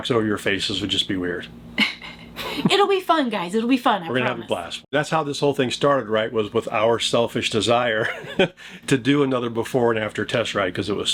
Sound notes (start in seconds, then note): 1.8 laughing